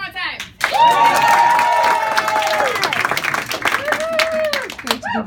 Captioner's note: audience cheering